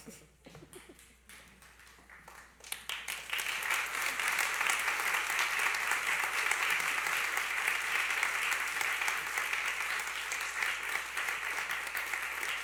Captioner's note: applause